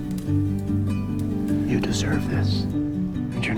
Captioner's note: voiceover